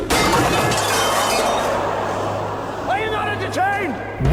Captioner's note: sword clanging; crowd gasping